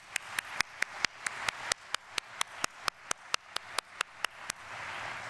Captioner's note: audience applauding